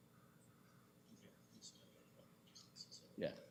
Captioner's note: clerk speaks off mic